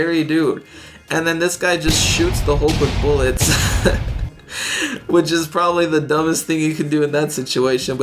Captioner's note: chuckles